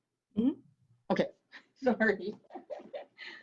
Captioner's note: chuckles